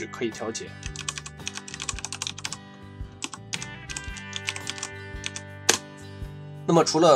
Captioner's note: typing tone